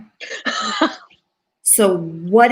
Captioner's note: laughs